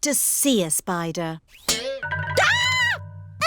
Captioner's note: screams